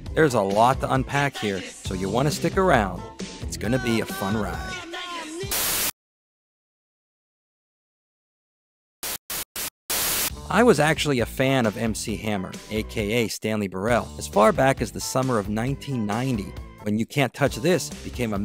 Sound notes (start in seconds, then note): 9.8 static